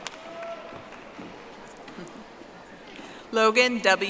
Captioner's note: audience applauding